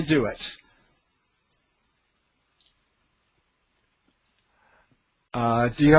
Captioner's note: silence